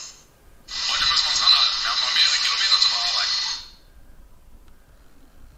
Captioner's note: digital sound of the decoder